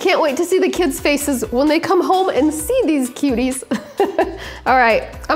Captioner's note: laughs